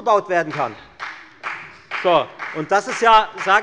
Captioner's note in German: Beifall bei der FDP